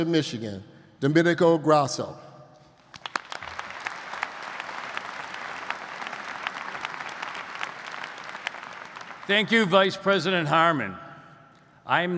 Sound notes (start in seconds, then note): 2.9 audience applauds